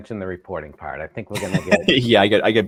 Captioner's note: laughs